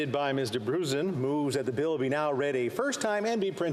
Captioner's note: speaking foreign language